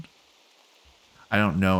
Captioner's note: silence